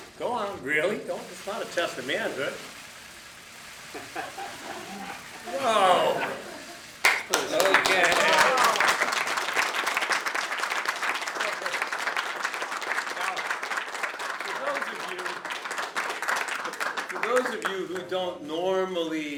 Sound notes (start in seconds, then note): 7.2 applause